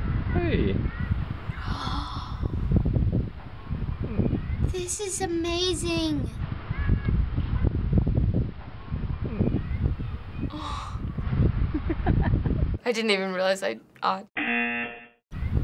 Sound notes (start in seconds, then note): 1.5 gasping; 10.3 awwing; 11.7 man laughing; 14.4 buzzer